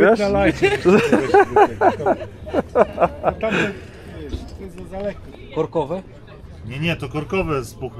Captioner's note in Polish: śmiech